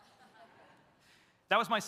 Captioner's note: audience laughs